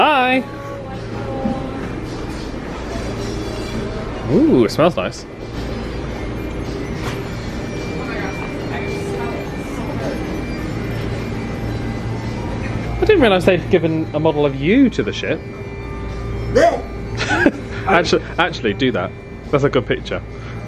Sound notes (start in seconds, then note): 7.7 people chattering